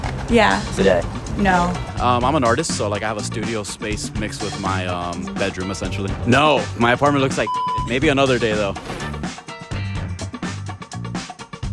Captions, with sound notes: - Yeah. - Today? - No. - I'm an artist so, like, I have a studio space mixed with my bedroom essentially. No, my apartment looks like (beep). Maybe another day though. (upbeat music)